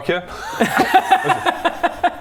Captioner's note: tactful laughter